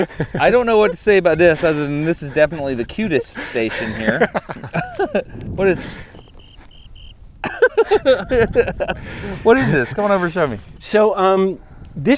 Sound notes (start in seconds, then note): 6.0 cricket chirping; 7.4 giggling